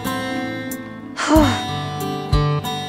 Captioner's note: Tipsy sighs